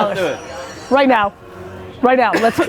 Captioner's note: laughs